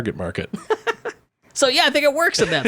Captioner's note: laughing